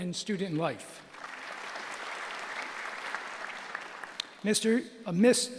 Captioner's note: applause